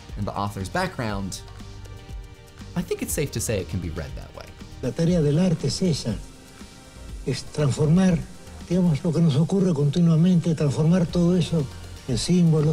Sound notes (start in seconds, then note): 4.8 speaking spanish